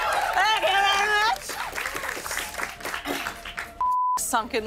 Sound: cheers and applause

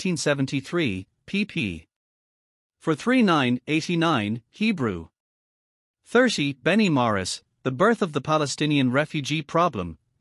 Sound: Hebrew

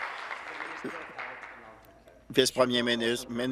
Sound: applause

